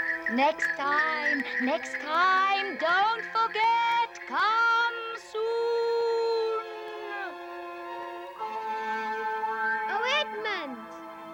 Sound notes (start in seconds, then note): 0.0 sing-song voice; 1.9 shouting